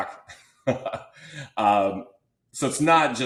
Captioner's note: laughs